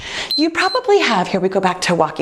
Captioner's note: timer beeps